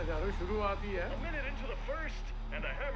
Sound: radio

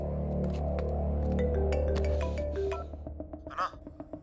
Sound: phone rings

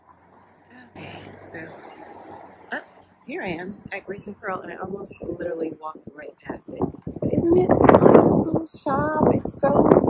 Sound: wind

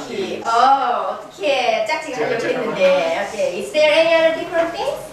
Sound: speaking foreign language

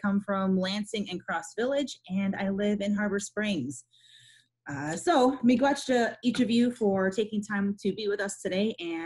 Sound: foreign language 00:08:48

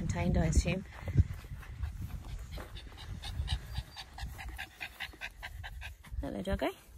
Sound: dog pants loudly

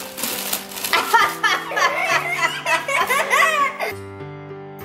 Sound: laughing

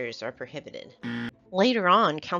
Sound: buzzer

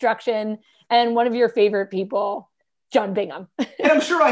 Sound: laughter

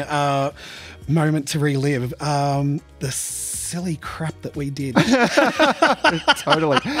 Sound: laughs

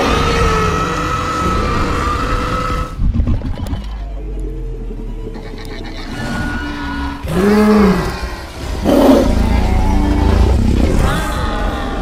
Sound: dinosaurs roar

